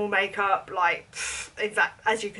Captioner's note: blows